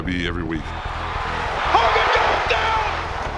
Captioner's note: audience roars